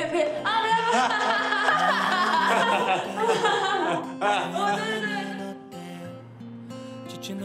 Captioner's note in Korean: 웃음소리